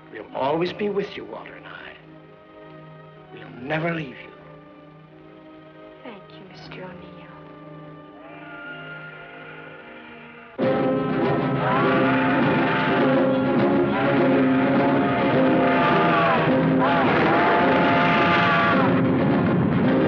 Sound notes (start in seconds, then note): 7.9 train whistle